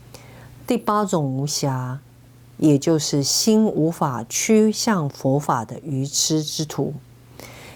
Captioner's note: in Kham dialect